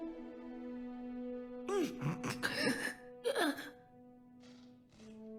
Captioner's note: heavy breathing